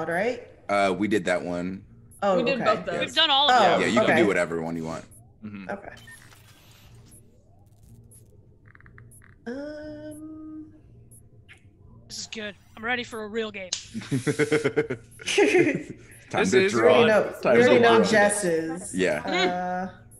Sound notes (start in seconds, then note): 13.9 laugh